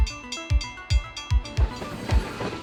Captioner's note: electronic music; railroad bells ringing